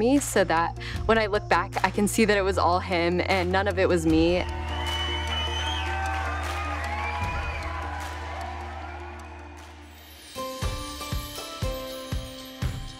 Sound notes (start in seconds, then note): 4.2 people cheering and clapping; 10.3 upbeat music